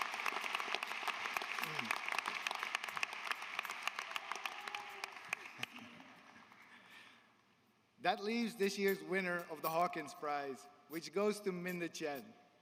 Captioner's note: applause